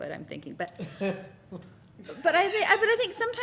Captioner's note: laughter